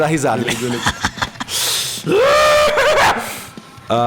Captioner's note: laughs